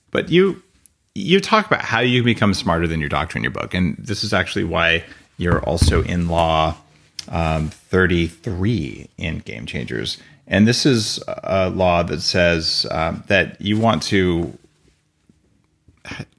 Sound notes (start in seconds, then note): none